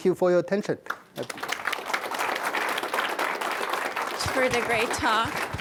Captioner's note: audience clapping